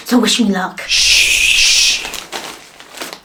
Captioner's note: hush hush